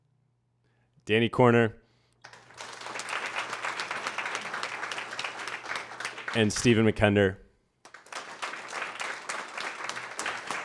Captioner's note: applause